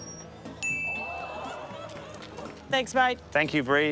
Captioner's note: ding!